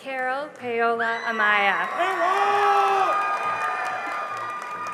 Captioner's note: cheering and applause